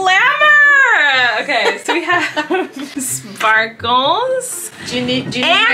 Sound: laughing

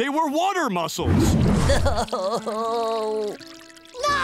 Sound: crying

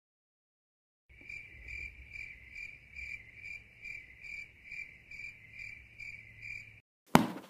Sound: awkward cricket chirping

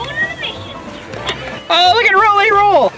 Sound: toy talking

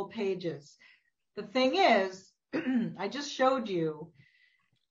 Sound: clears throat

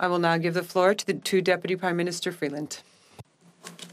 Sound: speaking French

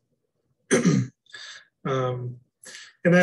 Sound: clears throat

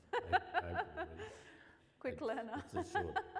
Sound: laughs

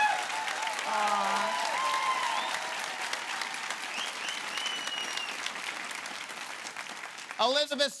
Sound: loud cheering

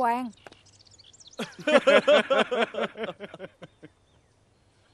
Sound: laughing

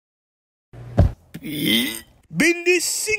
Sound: Gruñe

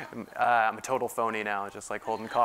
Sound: laugh

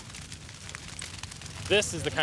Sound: fire crackling

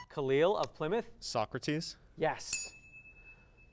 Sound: ding

